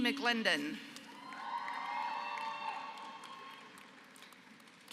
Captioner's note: applause